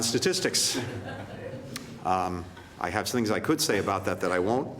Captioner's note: laughter